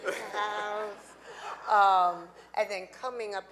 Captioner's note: audience laughing